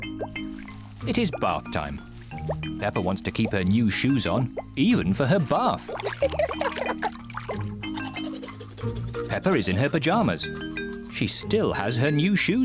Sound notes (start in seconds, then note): 6.1 giggles